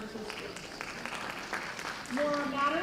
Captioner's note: applause